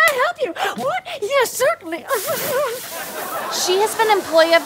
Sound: giggles; audience laughs

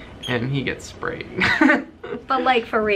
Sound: chuckling

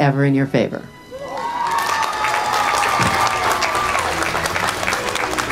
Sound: crowd cheering

